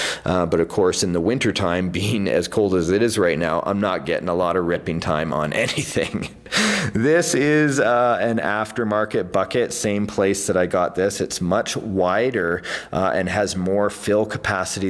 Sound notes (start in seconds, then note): 5.5 laughs